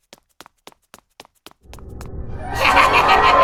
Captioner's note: running footsteps; Mr. Punch laughs and screams